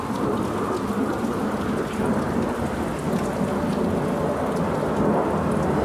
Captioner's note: noise of aeroplanes